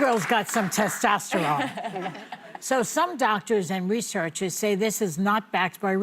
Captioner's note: applause